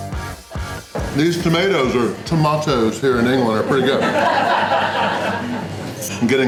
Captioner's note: crowd laughter